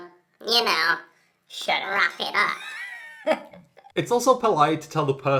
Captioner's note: laughs